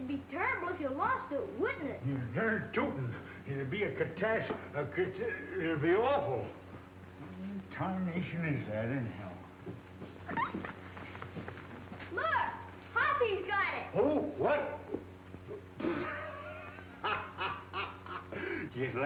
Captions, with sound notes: - It'd be terrible if you lost it, wouldn't it? - You're durn tootin'. It's be a catast, a cata, it'd be awful! Where in tarnation is that anyhow? (dog whines) - Look! Hoppy's got it! - Who? What? (Windy laughing)